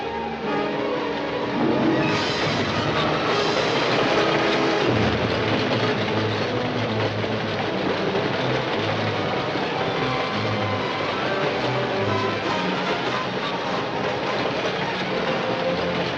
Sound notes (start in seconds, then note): 7.7 train clacking